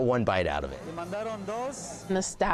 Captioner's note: speaking Spanish